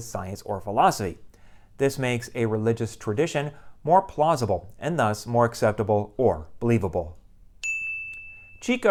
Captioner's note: chime